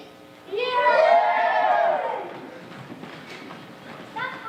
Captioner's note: all cheering